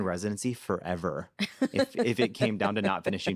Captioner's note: laughing